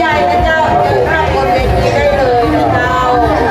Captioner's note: laughing